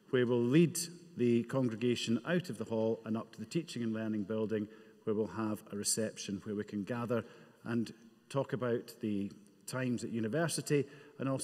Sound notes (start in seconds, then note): none